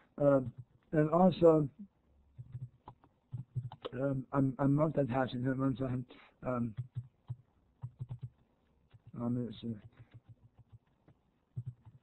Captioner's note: typing